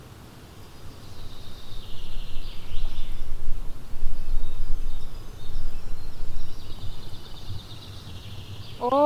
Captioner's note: birds chirping; speaking Spanish